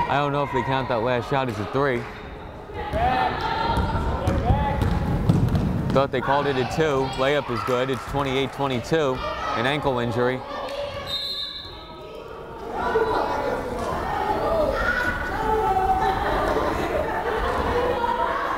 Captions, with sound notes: I don't know if they counted that last shot as a three. Thought they called it a two. Layup is good, it's 28-22. An ankle injury. (whistle blows) (crowd chattering)